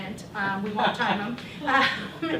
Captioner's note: chuckle